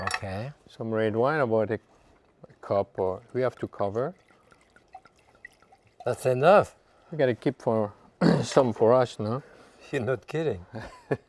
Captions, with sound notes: - Okay. - Some red wine, about a cup or we have to cover. (wine sloshing) - That's enough. - We gotta keep some for us, no? - You're not kidding.